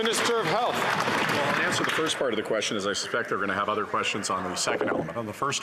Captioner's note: some Applause